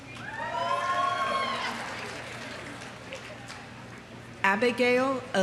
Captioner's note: audience cheering; audience applauding